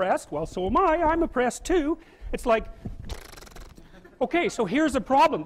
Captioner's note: pfft sound